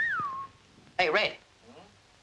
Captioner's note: wolf whistles